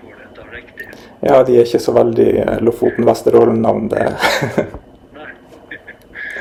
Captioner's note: chuckles